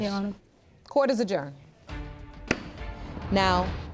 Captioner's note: gavel thumps